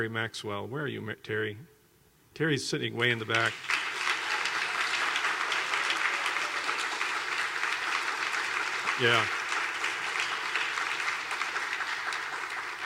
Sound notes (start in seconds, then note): 9.3 clapping